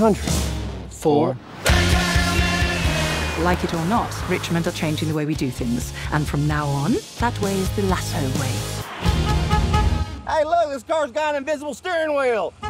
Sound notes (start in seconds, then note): 9.2 car horn honks